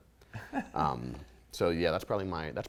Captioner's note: light laughter